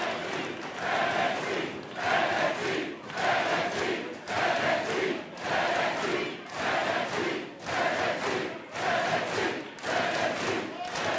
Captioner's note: fans chanting